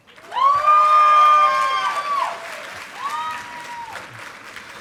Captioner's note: audience applauding